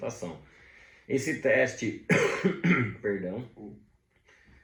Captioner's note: cough..cough...flu alert!